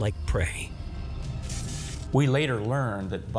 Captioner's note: foreboding music; electric crackling